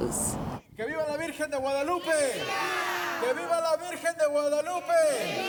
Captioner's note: chanting in foreign language